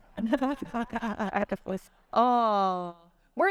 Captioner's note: all chuckling